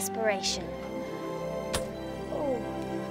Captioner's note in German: knirschen